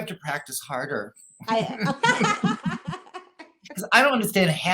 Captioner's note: laughing